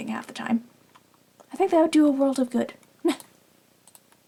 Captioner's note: laughs